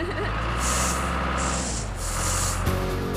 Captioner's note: engine Running